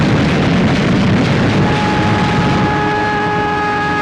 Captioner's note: plane flying overhead; gun firing; explosions